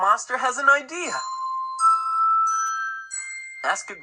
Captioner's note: chimes